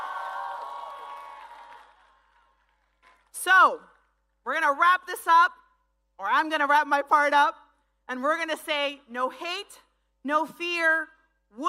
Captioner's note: speaking spanish